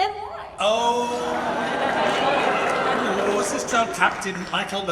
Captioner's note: audience laughs